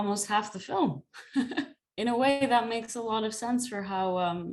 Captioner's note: laughter